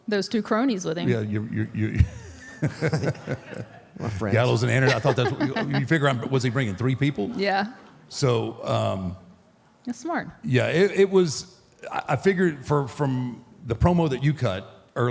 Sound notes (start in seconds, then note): 1.1 laughs; 4.8 Michelle laughs